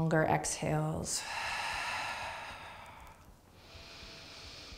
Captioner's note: deep breathing